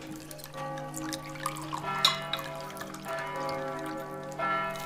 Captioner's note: church bells ring